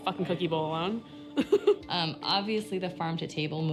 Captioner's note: she laughs